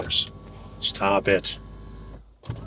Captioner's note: seat whirring